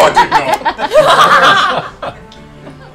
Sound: laughter

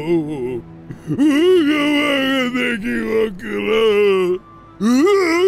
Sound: cries; cries

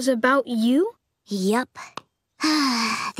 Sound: sighing

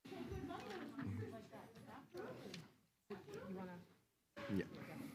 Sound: indistinct conversation

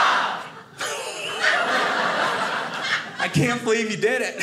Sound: audience laughing

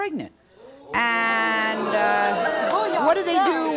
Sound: crowd jeering

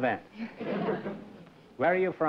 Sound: laughter

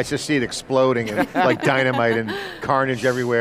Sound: chuckling

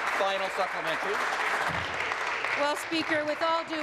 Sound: voice fading; applause

